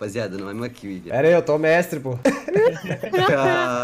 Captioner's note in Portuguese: risos